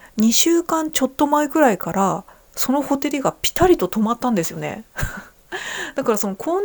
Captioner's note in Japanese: 笑い